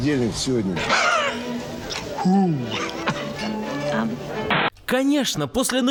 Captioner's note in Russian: помехи